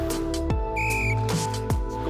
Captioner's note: whistle blowing; upbeat music